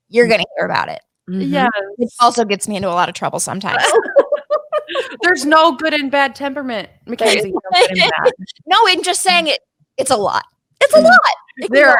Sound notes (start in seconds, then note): 3.7 all laughing; 7.3 laughing